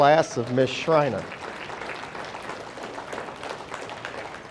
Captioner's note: audience applauding